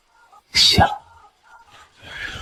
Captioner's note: laughing